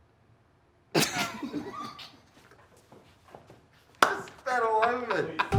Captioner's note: both laughing